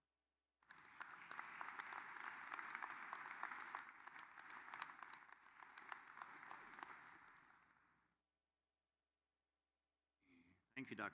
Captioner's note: applause